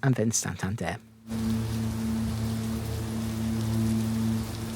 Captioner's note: sound of heavy rain